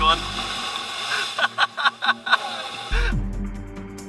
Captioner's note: laughter